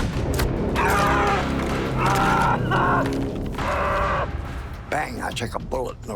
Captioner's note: gunshot; agonized screaming